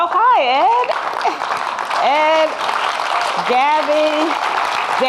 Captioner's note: audience clapping